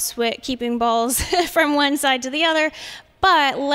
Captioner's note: laughter